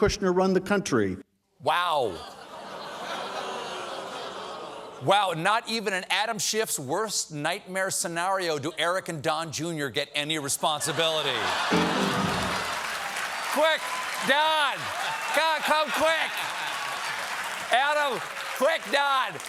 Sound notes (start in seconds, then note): 4.4 audience reacts; 11.2 cheers and applause; 11.7 piano riff